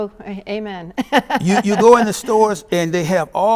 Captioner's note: laughs